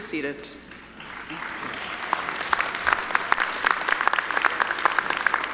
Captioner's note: audience applauding